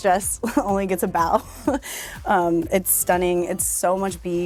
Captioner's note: chuckles